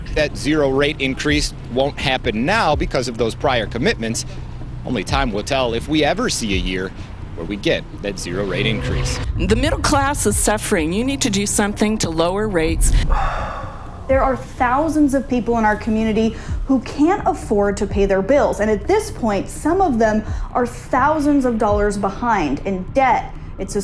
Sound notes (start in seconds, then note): 13.0 host sighs